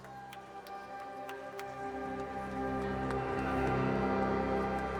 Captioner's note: scattered applauding